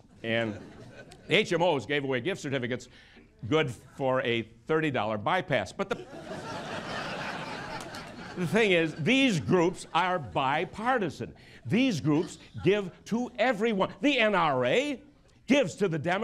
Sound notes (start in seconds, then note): 7.7 laughter